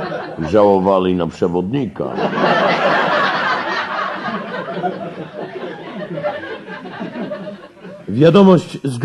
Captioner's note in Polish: śmiech